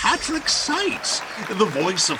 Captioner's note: audience cheering